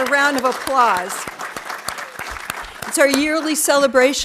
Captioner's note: audience applauding